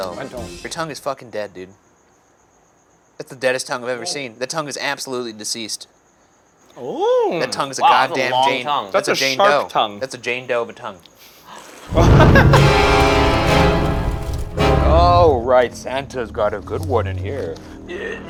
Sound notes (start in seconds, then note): 11.8 smoke whooshing; 11.9 dramatic music